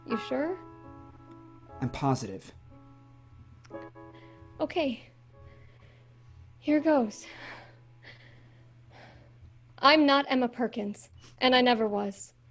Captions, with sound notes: - You sure? - I'm positive. - Okay. Here it goes... (breathing heavily) I'm not Emma Perkins, and I never was.